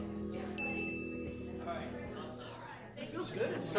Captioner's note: bell dinging